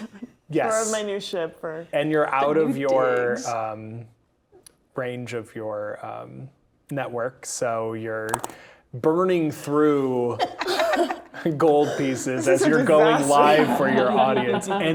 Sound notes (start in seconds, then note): 0.0 chuckles; 8.3 pen clatters; 10.4 laughing